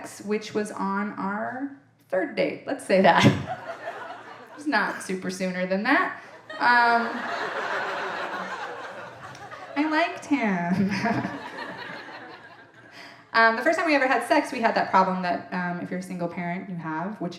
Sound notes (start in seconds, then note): 6.2 audience laughing; 11.9 chuckles